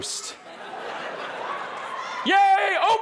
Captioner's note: audience laughing